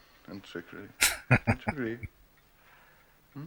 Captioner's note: chuckling